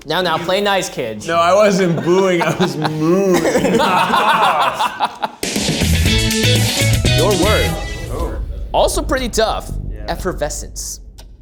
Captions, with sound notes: - Now, now, play nice, kids. - No, I wasn't booing, I was mooing. (group laughs) (upbeat music) - Your word, also pretty tough, effervescence.